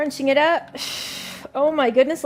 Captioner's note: exhales sharply